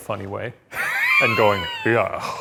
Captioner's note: Ryan laughs